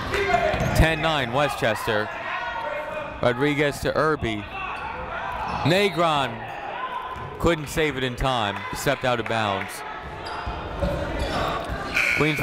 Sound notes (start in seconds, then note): 6.2 whistle tweeting; 10.1 people shouting in the crowd